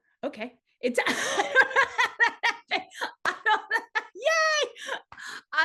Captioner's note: laughter